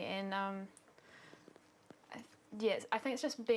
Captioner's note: none